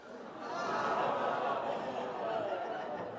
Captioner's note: laughter